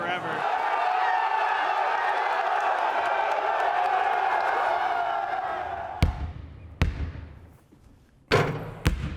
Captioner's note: crowd cheers